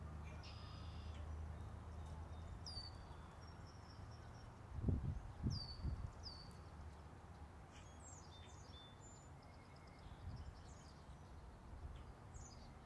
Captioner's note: wind blowing